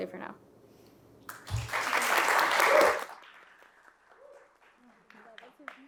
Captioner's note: audience clapping